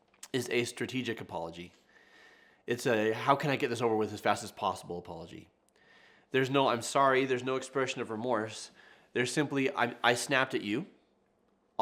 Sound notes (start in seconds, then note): none